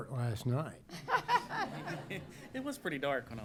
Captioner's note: laughter